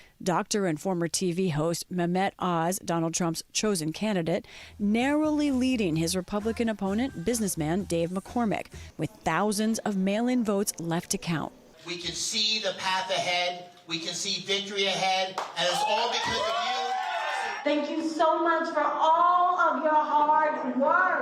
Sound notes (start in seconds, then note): 15.5 cheering and applause